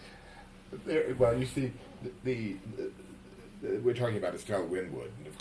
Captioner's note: laughs